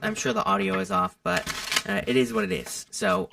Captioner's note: shuffling cards